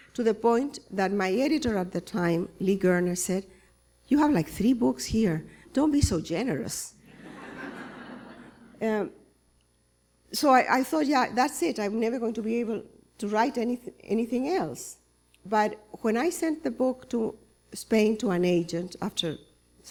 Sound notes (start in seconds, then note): 7.0 laughter